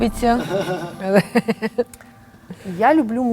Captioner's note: laugh